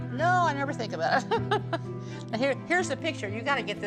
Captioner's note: chuckling